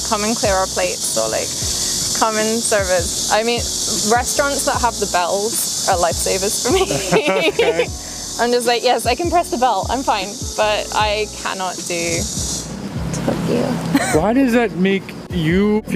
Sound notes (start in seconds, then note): 6.6 both laugh; 11.1 speaking in foreign language